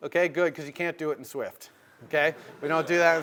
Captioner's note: laugh